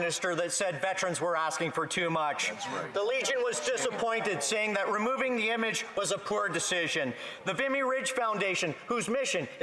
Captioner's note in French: voix de l'interprète